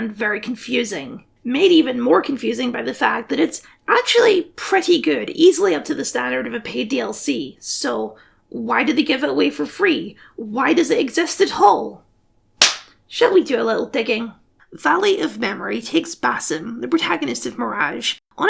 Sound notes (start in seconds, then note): 12.6 clap